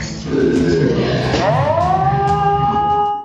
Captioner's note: yells in slow motion